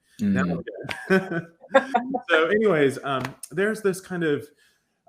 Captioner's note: laughs